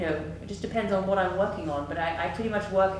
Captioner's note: none